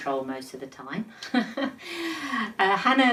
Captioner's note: chuckles